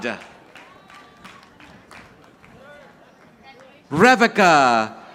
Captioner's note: audience applauding